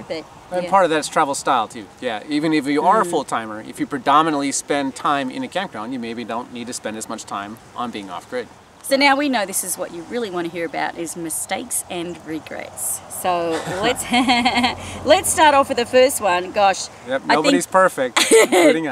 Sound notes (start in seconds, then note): 13.4 laughs; 18.2 laughing